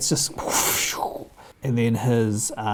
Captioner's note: presenter makes whooshing noise